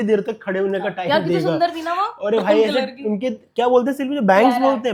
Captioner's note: laughs